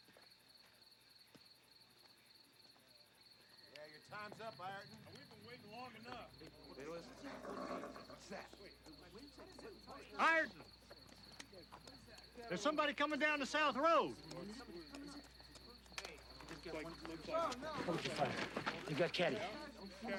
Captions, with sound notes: - Hey, your time's up, Ireton. - We been waiting long enough. (horse snorts) - What's that? - Ireton! There's somebody comin' down the south road! (hooves clopping) (men murmuring) - Hold your fire, he's got Caddie.